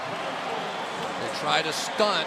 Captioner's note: pa announcement